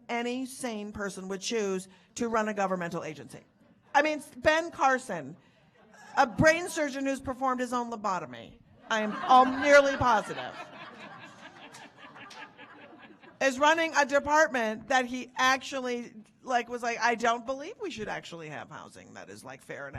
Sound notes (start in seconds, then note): 10.8 audience laughing